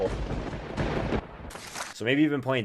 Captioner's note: thunder